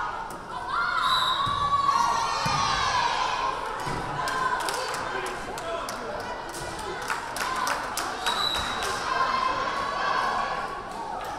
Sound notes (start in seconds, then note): 1.0 whistle blaring; 1.6 crowd cheering; 8.3 whistle blaring